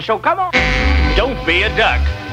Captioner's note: duck quacks